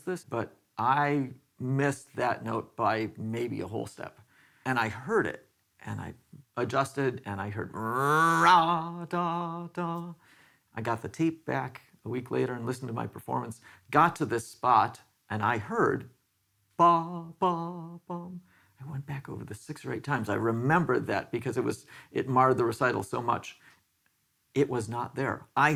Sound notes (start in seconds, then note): 7.6 speaker vocalizing